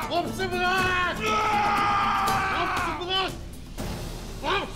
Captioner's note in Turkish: Bağırma sesi